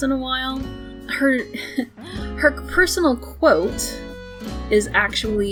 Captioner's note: laughs